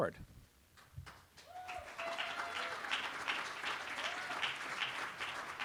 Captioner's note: applause